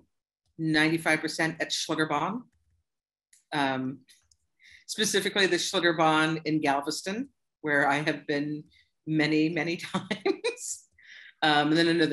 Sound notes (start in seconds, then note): 10.0 laughter